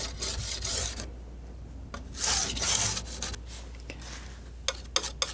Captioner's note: scraping